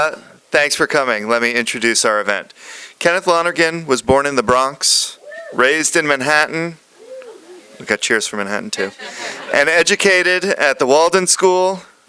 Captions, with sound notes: Thanks for coming. Let me introduce our event. Kenneth Lonergan was born in the Bronx, [a cheer from audience] raised in Manhattan, [another cheer from audience] ... We've got cheers for Manhattan too. And educated at the Walden School...